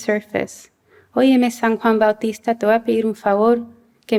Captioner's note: non-english speech